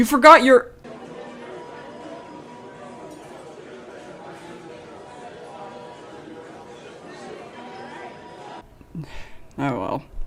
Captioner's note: crowd chatter overlaps; sigh